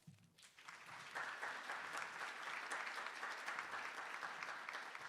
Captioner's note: attendees applauding